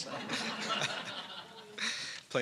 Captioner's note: laughter